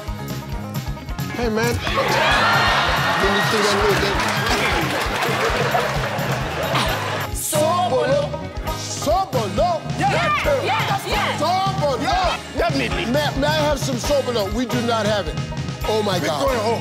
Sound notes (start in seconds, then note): 1.7 audience cheering